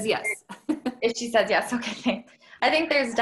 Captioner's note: chuckles